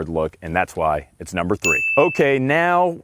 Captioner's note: bell ringing